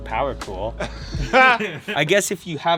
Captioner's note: laughs